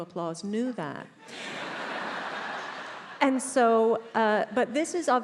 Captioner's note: attendees laughs